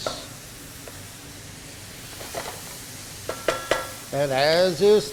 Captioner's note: pan sizzling